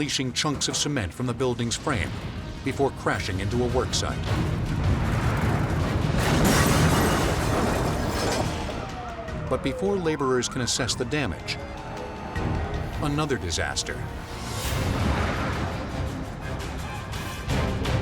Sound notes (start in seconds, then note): 6.5 crane slams; 15.0 dramatic music